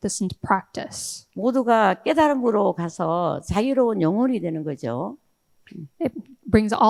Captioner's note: speaking in foreign language